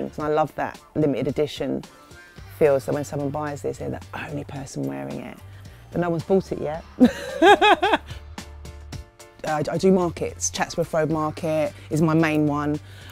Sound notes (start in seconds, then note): 7.0 laughing